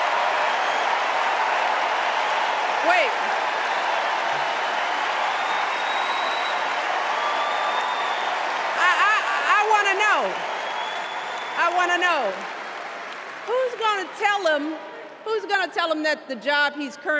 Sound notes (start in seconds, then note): 3.4 cheers and applause